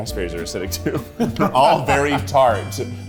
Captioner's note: laughs